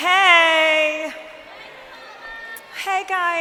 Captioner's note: crowd shouting